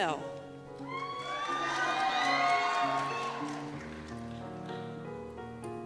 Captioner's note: cheers and Applause